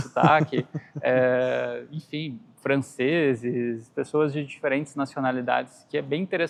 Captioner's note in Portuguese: risadas